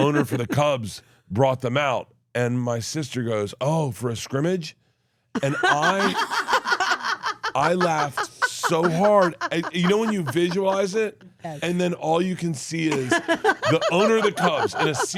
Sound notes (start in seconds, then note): 8.0 laughs